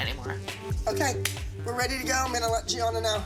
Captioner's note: claps